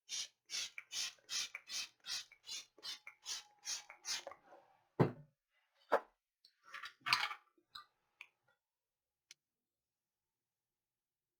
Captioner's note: silence